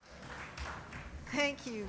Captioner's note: audience applauding